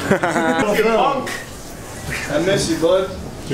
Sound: laughing

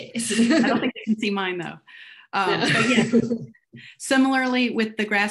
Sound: giggling

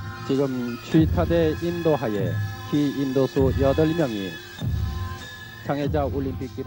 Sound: man speaking in foreign language

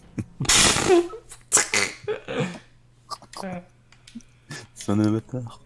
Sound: laughs

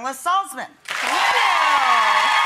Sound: applause

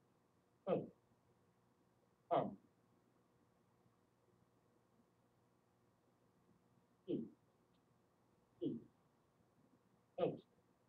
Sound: software talking

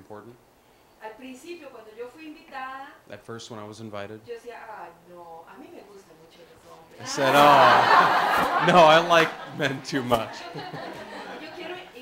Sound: laughter

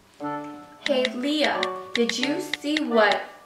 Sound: clicking

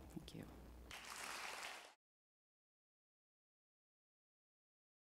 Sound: audience clapping

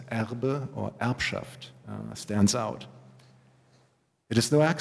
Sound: german

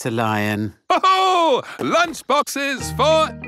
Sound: laughs

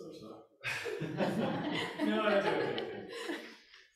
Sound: laughing

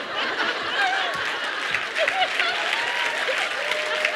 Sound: laughter

